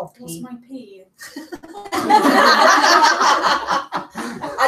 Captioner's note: laughter